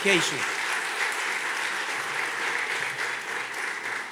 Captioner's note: audience clapping